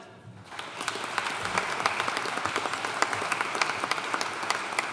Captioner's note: audience applauding